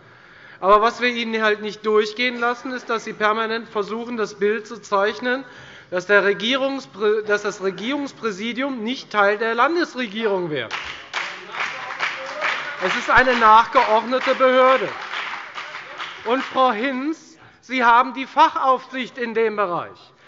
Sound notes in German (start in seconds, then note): 10.6 Beifall bei der FDP und bei Abgeordneten der SPD